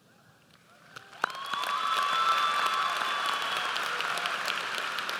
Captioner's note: audience applauds